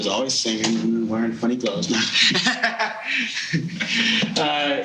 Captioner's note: laughing